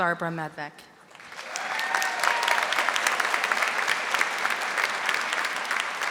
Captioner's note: audience applauding